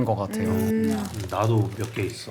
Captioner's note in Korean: 와작